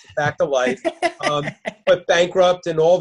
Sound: laughing

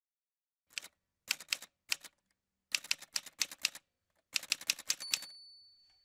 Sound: typewriter sounds

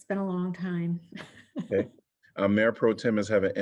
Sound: laughter

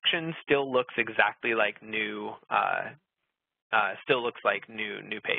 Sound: laughs

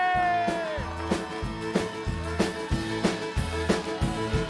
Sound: cheers and applause

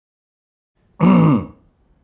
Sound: clears throat

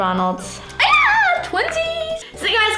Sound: screaming

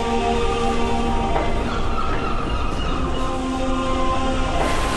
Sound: seagulls

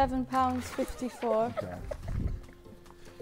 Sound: Tobi laughing

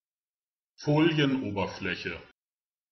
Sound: fast Pronunciation

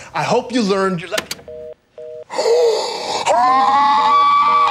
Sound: phone beeping; Gavin gasping; Gavin screaming

